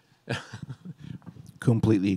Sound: chuckling

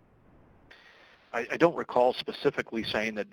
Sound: voiceover

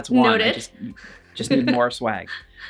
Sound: laughter

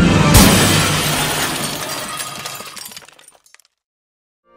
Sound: the music and wind abruptly end as the house crash lands in a mysterious place

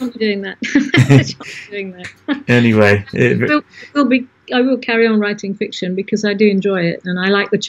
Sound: both laugh

